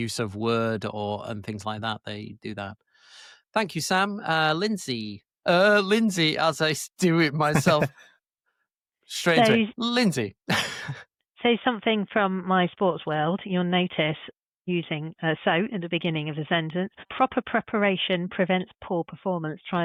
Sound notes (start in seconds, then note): 7.4 chuckles; 10.5 chuckles